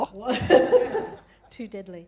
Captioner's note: laughs